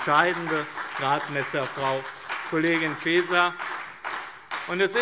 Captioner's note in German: Beifall BÜNDNIS 90/DIE GRÜNEN und CDU